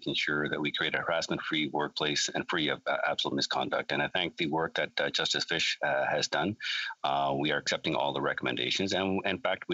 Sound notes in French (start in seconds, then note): 2.3 voix de l'interprète